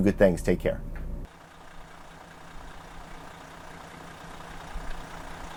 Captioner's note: engine revving